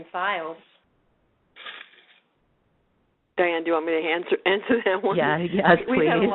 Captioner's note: laughs